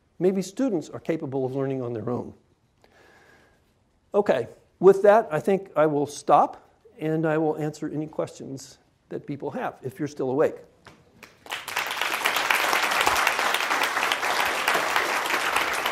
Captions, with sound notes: Maybe students are capable of learning on their own. Okay, with that, I think I will stop, and I will answer any questions that people have, if you're still awake. (applause)